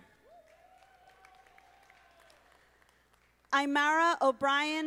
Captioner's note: audience applauding